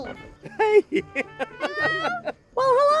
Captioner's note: laughing